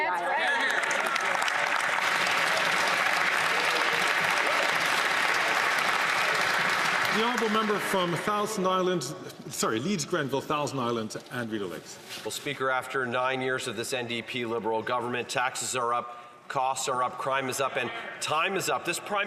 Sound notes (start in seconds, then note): 5.8 some Applause